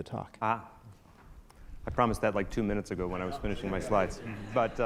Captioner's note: audience laughter